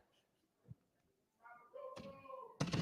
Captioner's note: cheering